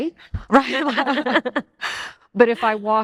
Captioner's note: all laugh